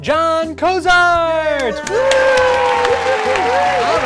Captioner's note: cheering